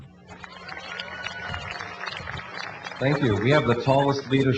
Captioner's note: applause